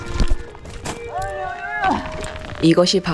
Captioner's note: very distressed sound